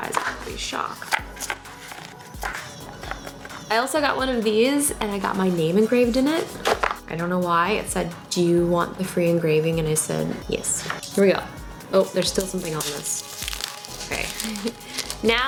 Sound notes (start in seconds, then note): 12.1 crinkling; 14.4 laughs